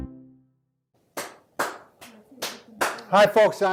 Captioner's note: hands clapping